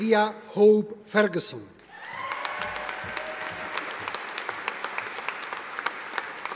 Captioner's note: audience applauding